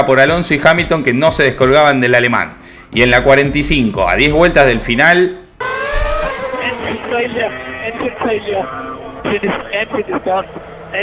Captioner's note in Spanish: radio